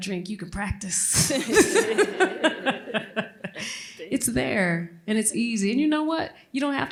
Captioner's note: laughter